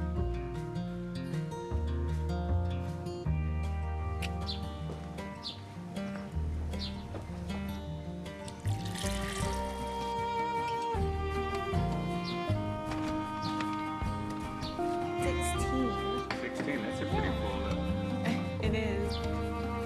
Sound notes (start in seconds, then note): 4.6 lips click; 7.7 birds chirping; 8.5 water pouring; 14.5 birds chirping